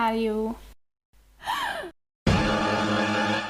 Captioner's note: gasps